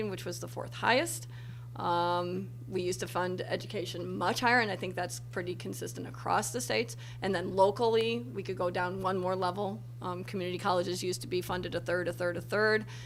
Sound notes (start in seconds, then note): none